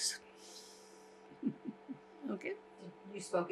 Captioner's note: laughing